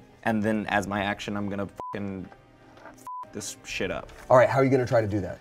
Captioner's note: beep